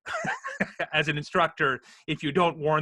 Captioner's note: laughs